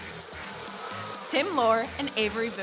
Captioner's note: audience oohs